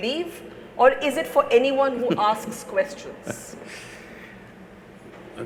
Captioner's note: Sadhguru laughs